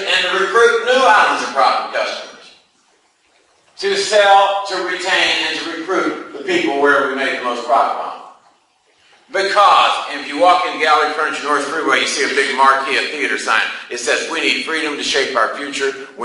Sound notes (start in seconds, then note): none